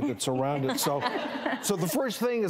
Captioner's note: crowd laughing